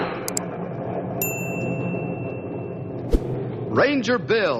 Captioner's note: ding